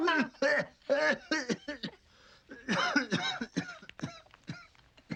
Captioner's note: both laughing; man coughing